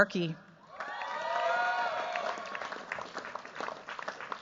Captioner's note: cheers, applause